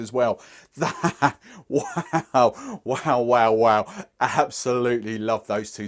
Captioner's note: laughing